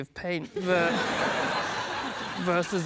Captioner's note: laughter